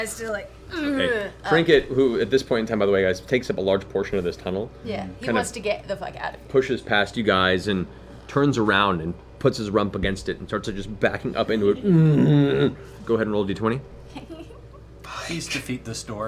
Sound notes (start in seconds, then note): 11.4 moans